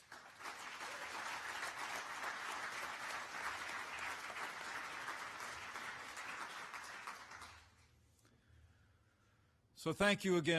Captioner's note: applause